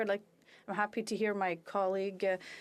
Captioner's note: speaking French